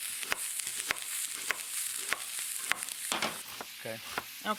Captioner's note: oil sizzling